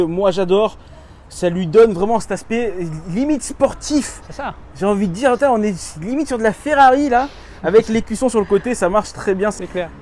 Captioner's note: laughs